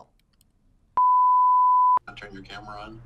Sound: beep

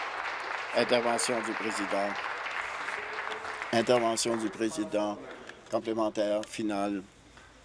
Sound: applause

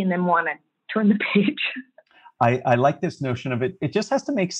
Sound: laugh

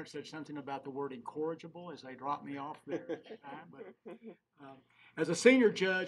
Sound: laughing

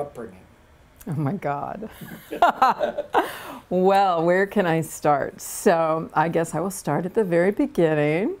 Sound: laughter

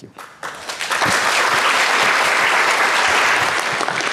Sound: clapping

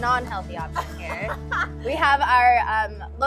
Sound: laugh

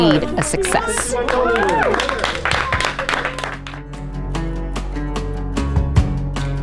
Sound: team cheering and applauding

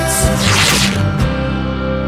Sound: all ripping fabric

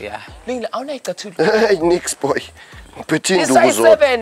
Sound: men speaking in foreign language

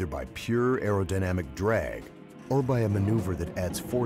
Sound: voiceover

